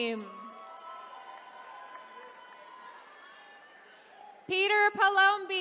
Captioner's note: attendees cheering